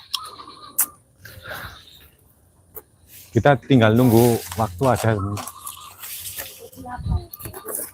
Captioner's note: bird Sound